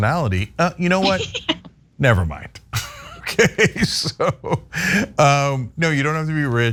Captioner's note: laugh